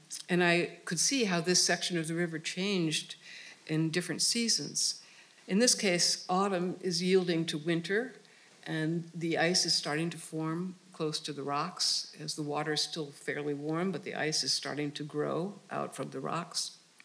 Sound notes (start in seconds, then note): none